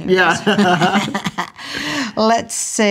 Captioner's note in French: rient